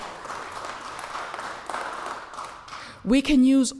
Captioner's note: applause